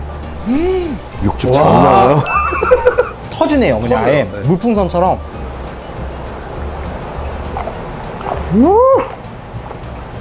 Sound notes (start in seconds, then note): 2.1 impressed